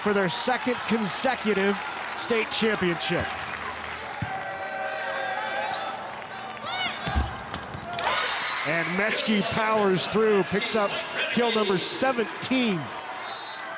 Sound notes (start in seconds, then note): 3.7 ball thumping; 7.8 audience cheering